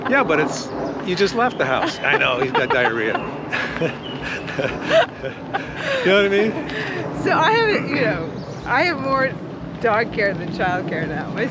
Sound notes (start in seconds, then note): 3.2 Nicole laughing